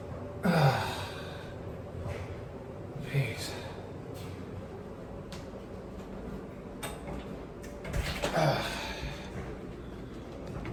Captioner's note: door opens and closes